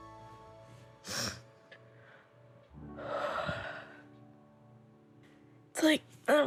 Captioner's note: sniffles, breathes deeply